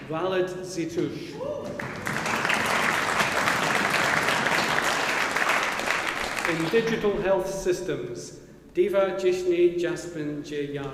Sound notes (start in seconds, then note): 1.6 audience applauding